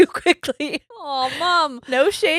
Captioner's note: laughing